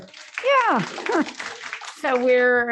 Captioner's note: applause